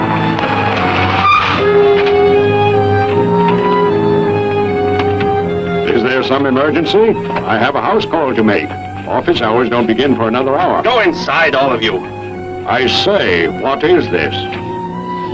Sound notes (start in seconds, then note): 5.8 brakes screeching